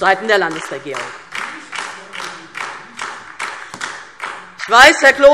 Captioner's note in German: Beifall DIE LINKE